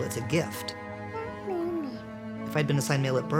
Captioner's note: baby babbles